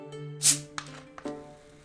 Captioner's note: carbonated fizz